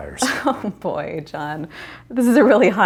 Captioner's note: laughing